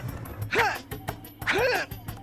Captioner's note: grunting